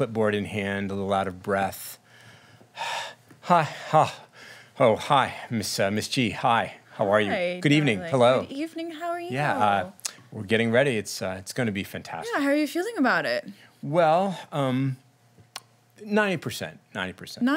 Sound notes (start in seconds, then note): 2.0 heavy breathing